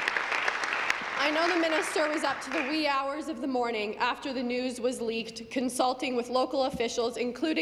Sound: applause

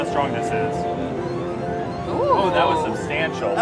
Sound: machine bleeps

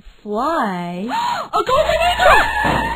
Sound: gasp; tire screech; crash

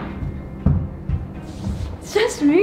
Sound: door slams

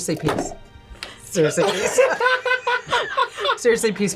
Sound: both laugh

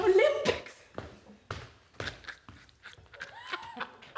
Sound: laughter

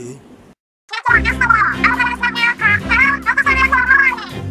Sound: Inkling gibberish

